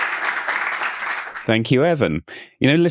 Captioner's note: audience applauding